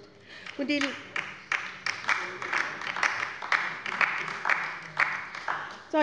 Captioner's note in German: Beifall bei der LINKEN